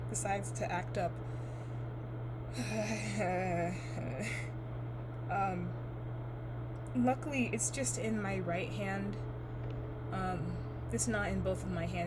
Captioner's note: tiredly sighs